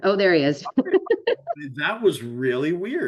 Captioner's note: laughs